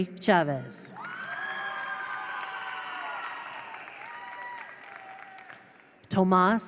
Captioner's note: attendees cheer; attendees applaud